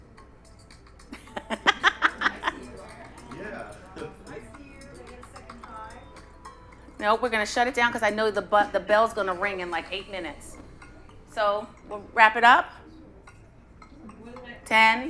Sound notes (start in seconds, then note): 1.9 chatter